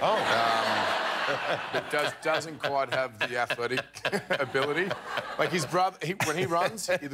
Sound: laughter

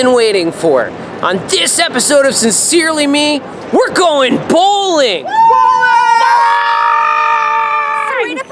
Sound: cheers

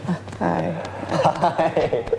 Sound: laughs

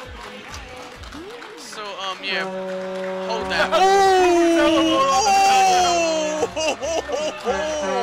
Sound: air horn, blowing majestically in the distance; applause, more air horn

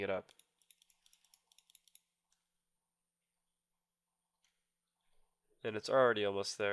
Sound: clicking sound

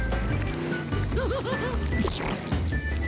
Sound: giggling

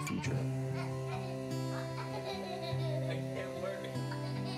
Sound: laughing

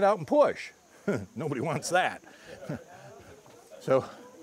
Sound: laughter

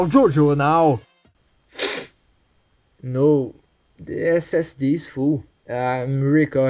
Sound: sniffle

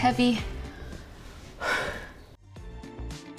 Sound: inhaling

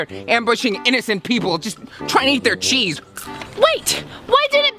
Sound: none

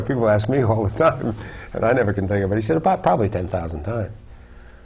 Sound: laugh

